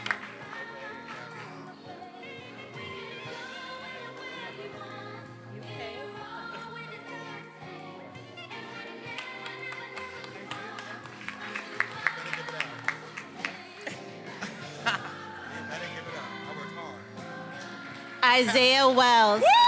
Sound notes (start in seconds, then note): 12.0 student speaking faintly; 14.5 student and faculty members laughing